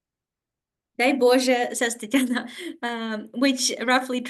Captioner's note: speaking Ukrainian